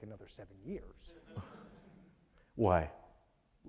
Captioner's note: audience laughing